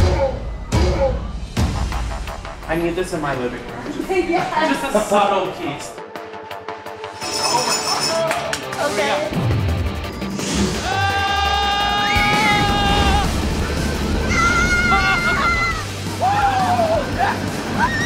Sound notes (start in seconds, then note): 0.2 ominous tones; 0.2 velociraptors growl; 9.9 tense music; 10.8 riders screaming